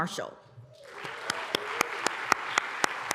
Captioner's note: applause